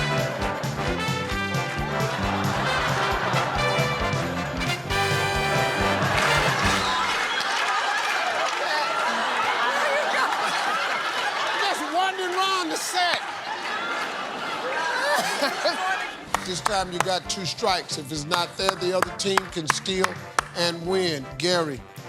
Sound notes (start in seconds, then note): 7.2 laughter; 13.6 laughter